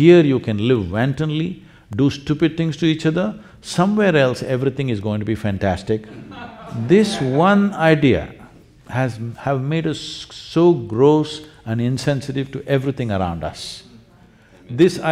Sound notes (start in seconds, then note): 6.0 laughter